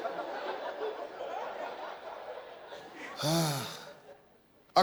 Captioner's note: audience laughing